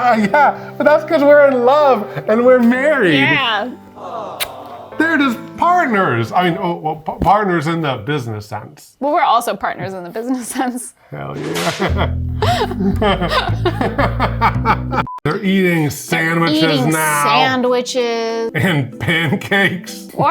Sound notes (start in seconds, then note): 11.4 laughing